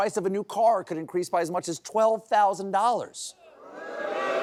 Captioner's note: booing